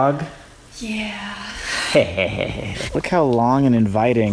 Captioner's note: sighing